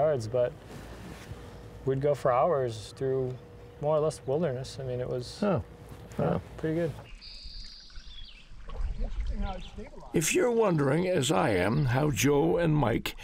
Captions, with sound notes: But we'd go for hours through more or less wilderness. It was pretty good. [birdsong] If you're wondering, as I am, how Joe and Mike